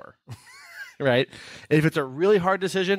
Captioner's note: laughing